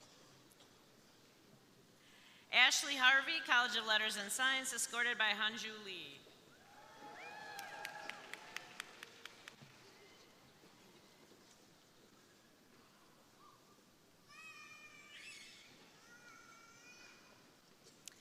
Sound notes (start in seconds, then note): 6.6 crowd cheering; 6.8 crowd applauding